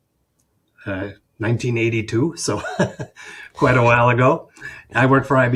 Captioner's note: chuckles